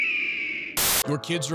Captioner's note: screaming